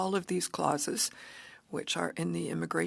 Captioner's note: speaking French